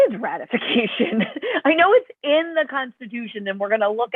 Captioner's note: laughter